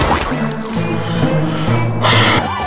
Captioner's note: inhales Oxygen